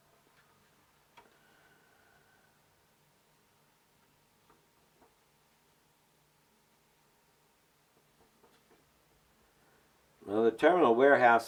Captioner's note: silence